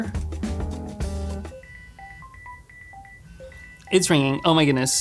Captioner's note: phone rings